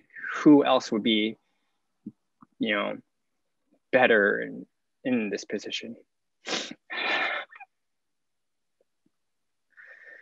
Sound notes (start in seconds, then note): 6.4 sniff crying